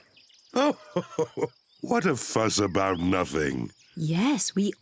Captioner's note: laughs